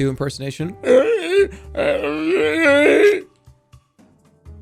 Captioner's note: zombie noises